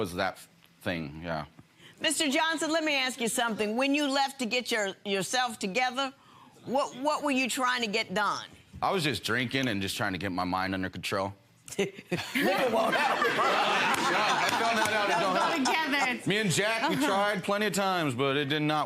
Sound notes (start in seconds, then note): 12.1 judge laughs; 13.9 audience laughs